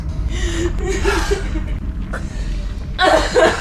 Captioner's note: Sally weeping